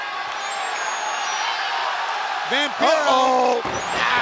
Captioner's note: audience cheering